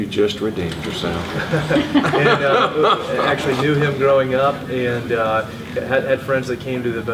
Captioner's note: laughs